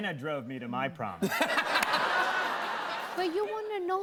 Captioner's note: laughter